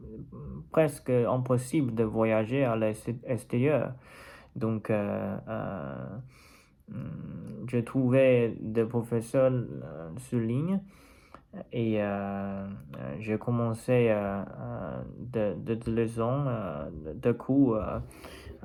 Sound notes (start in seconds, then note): 6.5 french